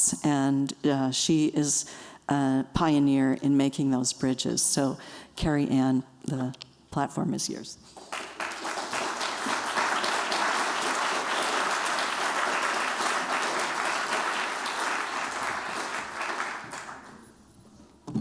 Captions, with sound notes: And she is a pioneer in making those bridges. So Carrie Ann, the platform is yours. [applause]